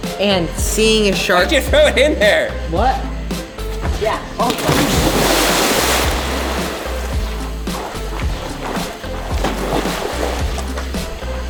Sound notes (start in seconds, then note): 4.4 water splashing; 7.9 upbeat music